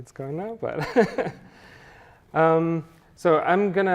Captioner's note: chuckles